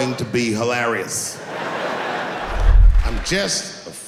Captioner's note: laughing